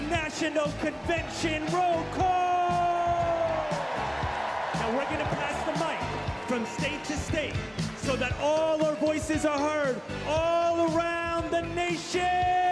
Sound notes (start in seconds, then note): 7.1 cheers and applause